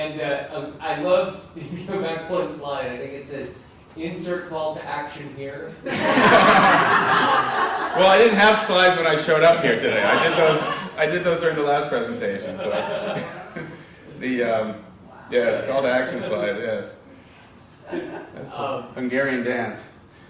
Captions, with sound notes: you go back one slide, I think it says insert call to action here. >> [LAUGH] >> Well I didn't have slides when I showed up here today, I did those during the last presentation. So yeah, call to action slide, yeah. Hungarian dance.